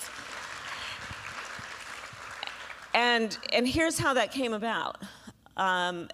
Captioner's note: applause